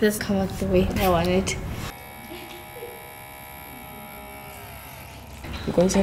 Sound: motor whirring

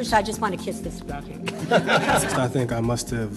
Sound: laughter

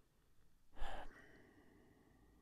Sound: sigh

